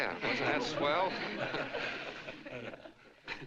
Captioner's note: laughter